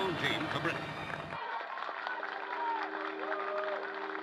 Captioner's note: applause